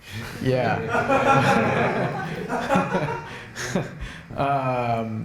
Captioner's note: laughter